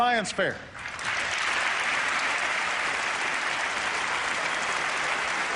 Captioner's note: applause